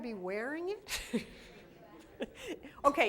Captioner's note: laughter